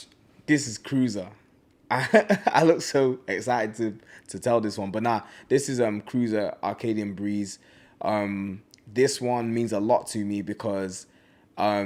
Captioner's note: laughs